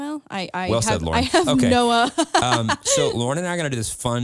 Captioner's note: laughs